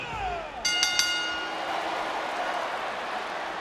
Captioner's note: bell rings